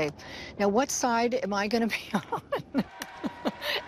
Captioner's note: laugh